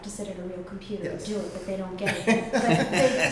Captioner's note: laughter